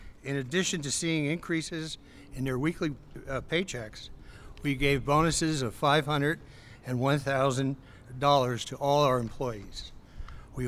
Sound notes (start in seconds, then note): none